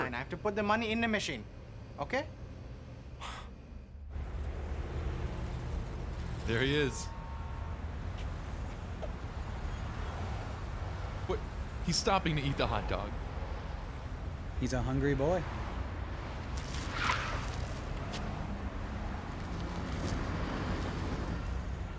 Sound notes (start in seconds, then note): 3.4 Ray scoffs; 4.4 traffic humming